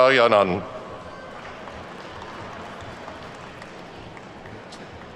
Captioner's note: attendees clapping